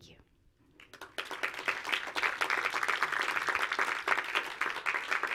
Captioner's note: audience applauds